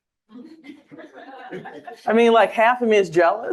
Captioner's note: audience laughing